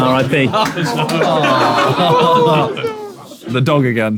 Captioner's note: people in room groaning